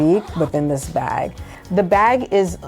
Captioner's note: zipper zips